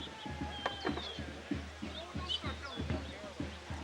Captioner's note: birds chirp